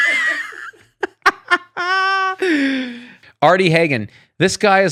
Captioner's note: laughs